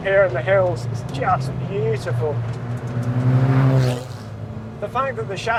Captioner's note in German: Motorgeräusche